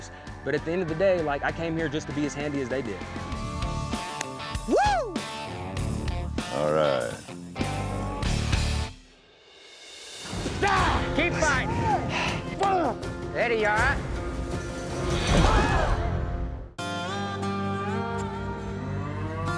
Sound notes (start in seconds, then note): 10.1 chops wood; 14.5 thud, cowboys gasp; 19.0 mooing